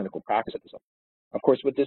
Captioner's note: audio distorts